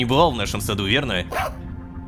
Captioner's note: robodog barking